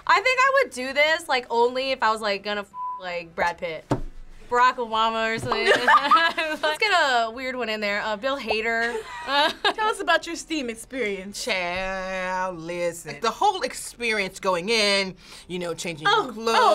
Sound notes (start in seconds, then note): 5.6 laughs; 8.9 both laugh